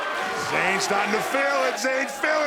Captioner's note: fans chanting